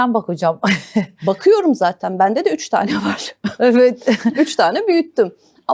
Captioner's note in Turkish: kahkaha